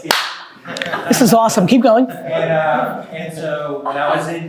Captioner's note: group laughing